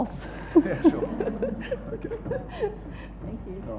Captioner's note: laughing